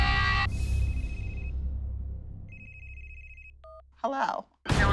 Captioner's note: cell phone ringing